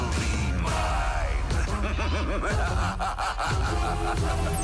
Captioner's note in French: rire sadique